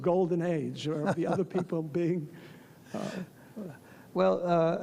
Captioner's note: Leon laughs